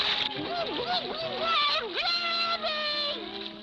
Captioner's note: spluttering